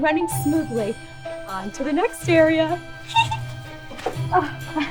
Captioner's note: giggles; chuckles